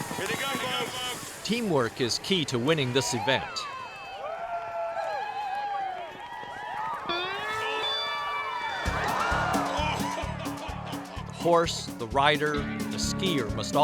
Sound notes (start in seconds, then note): 8.9 crowd shouting